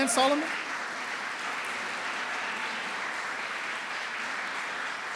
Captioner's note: applause